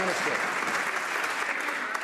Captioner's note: some Applause